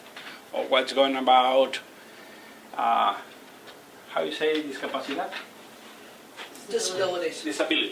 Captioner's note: non-english speech